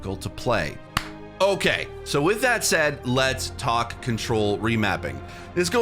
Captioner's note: clap